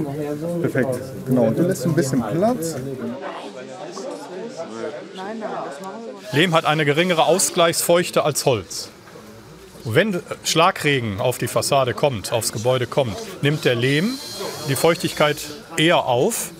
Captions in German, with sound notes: Perfekt. Genau. Und du lässt ein bisschen Platz. (Stimmengewirr) Lehm hat eine geringere Ausgleichsfeuchte als Holz. Wenn Schlagregen auf die Fassade kommt, aufs Gebäude kommt, nimmt der Lehm die Feuchtigkeit eher auf.